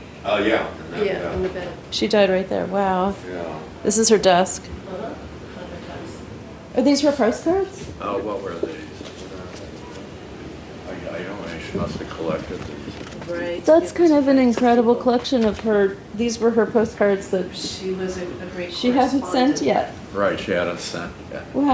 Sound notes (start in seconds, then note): 9.4 mumbles